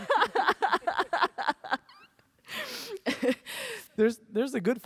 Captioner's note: laughs